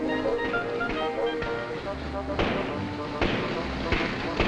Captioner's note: car engine popping